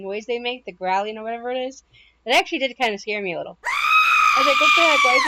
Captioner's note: loud Screaming